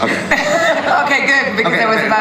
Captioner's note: laughter